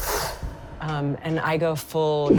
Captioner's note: sharp inhaling